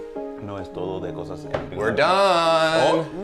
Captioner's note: speaking Spanish